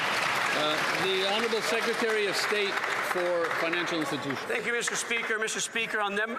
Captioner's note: some Applause